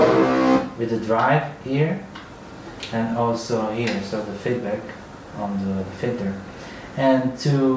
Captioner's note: feedback